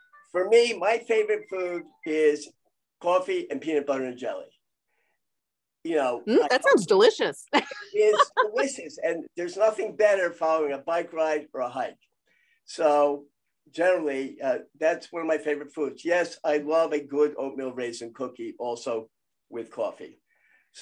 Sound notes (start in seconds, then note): 7.5 laughs